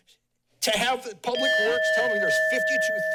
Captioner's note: bell rings